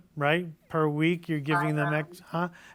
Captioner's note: audio distorts